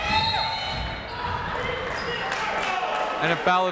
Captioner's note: whistle